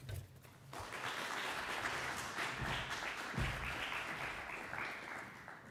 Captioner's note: audience applauding